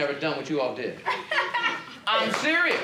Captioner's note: child laughs